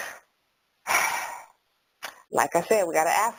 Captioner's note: sighs